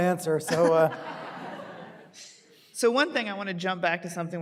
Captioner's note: audience laughing